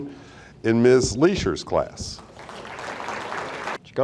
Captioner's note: audience applauding